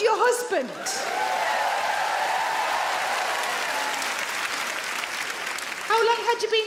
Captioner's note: audience clap; audience cheer